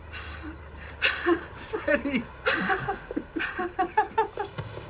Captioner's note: laughing